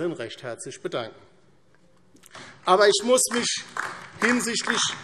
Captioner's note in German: Beifall DIE LINKE